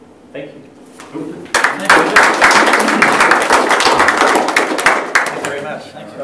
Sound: applause

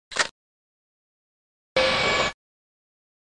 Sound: bip

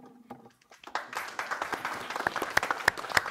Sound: applause

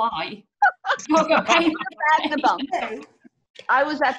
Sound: laughter

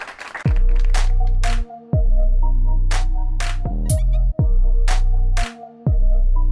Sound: applause

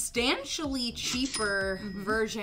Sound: till rings

